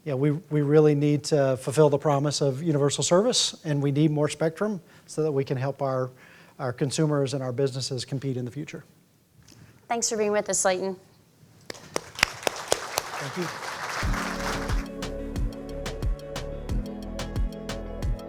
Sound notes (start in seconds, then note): 11.6 claps; 11.7 audience applauding; 14.0 bright upbeat music